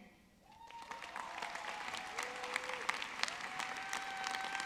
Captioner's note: audience clapping